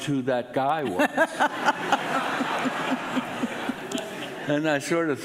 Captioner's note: audience laughing